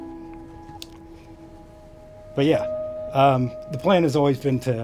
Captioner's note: voice wavers